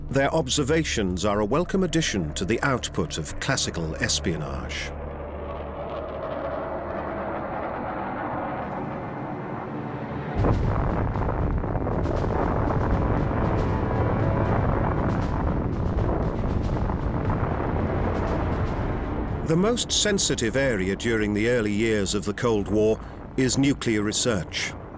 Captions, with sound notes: Their observations are a welcome addition to the output of classical espionage. [jet engine roars] [explosion] The most sensitive area during the early years of the Cold War is nuclear research.